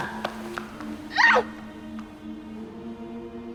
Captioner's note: screams; ominous ambient music